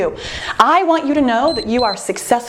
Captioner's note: timer beeps